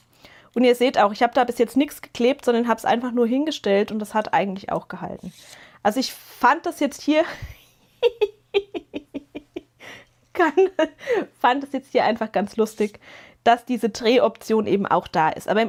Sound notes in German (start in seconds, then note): 10.7 gelächter